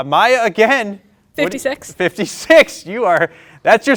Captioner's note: laughs